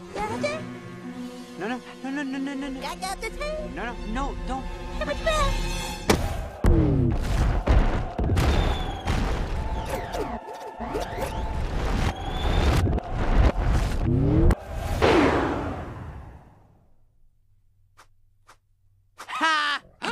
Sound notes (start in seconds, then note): 8.2 very large explosion; 14.9 fwoooosh